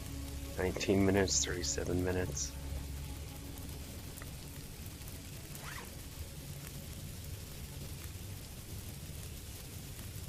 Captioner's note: rocks tumbling somewhere in the cave